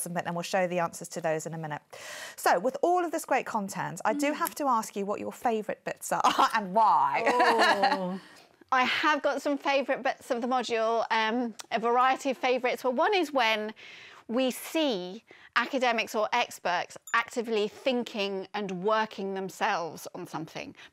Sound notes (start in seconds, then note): 7.2 chuckling